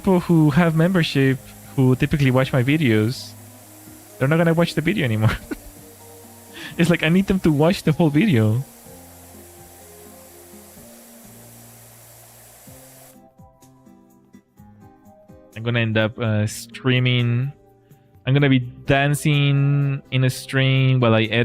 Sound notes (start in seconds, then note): 5.2 laughter